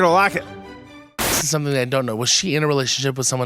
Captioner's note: static hissing